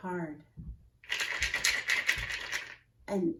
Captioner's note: beans rattling